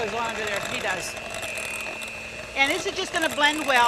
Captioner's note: mixer whirling